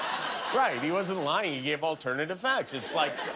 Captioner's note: laughter